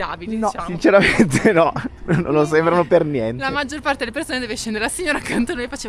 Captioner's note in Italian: risate